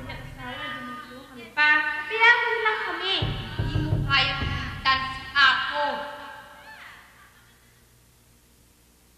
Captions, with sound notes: [People heckling] -You cannot replace Apo!